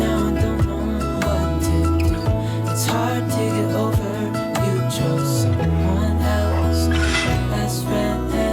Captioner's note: laughing